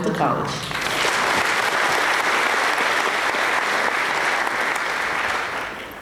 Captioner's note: applause